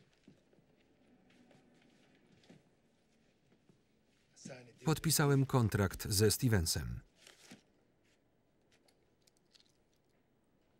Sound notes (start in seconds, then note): 7.1 paper crinkling